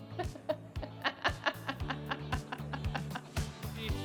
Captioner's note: chuckles